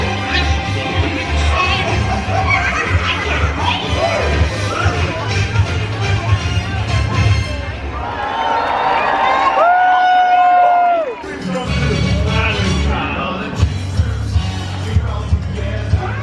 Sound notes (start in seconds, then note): 7.8 crowd cheering